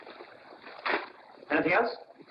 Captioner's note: package rustles